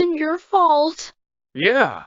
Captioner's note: chuckles and stands up, still hunched over his sketchbook